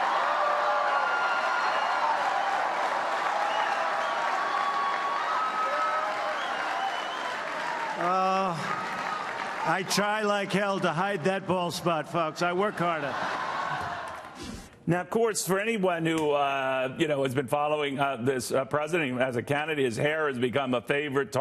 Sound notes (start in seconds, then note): 5.0 cheering